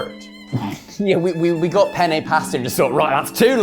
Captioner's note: chuckles